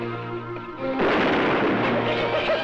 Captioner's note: gunshot fires; animals crying